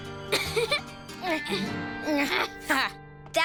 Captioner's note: laughing; grunting; rocky laughs